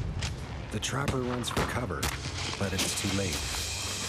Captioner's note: voiceover